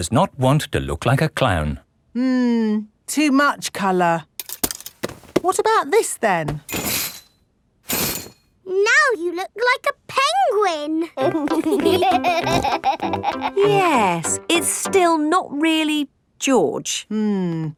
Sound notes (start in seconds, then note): 11.1 laughing